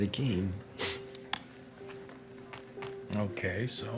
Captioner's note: chuckles